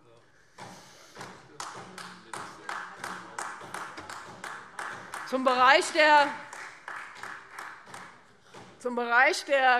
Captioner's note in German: Beifall Freie Demokraten, vereinzelt SPD und AfD